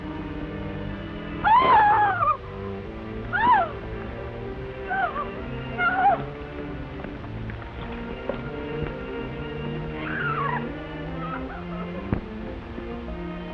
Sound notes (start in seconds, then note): 1.4 Dorothy shouts; 10.1 Dorothy shouts